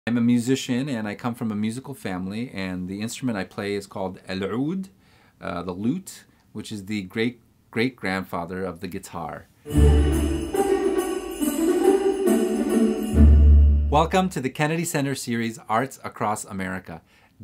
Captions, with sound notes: - I'm a musician, and I come from a musical family, and the instrument I play is called (speaks in foreign language), the lute, which is the great, great grandfather of the guitar. (festive music) Welcome to The Kennedy Center series "Arts Across America,"